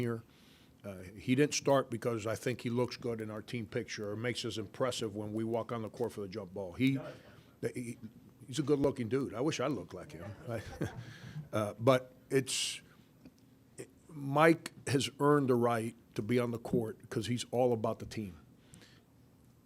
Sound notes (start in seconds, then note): 6.7 audience chatter; 10.3 audience laughter